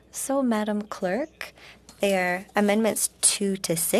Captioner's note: speaking in French